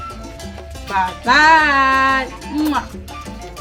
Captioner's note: kisses